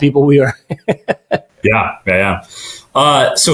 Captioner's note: chuckling